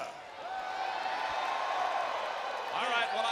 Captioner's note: crowd cheering